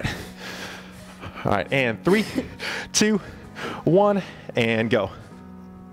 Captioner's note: panting; upbeat music